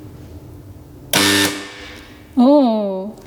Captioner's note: metal clanking